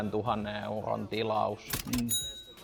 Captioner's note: cash_money_sound.wav